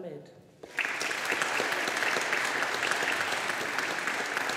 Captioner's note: audience applauding